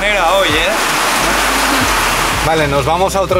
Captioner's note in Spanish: Edit: Tremendo ruido de lluvia